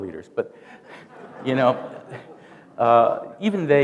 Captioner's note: laughter